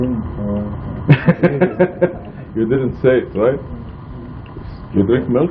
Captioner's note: laughing